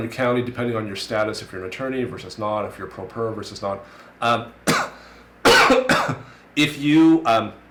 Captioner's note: coughs